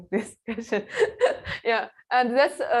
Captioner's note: laughs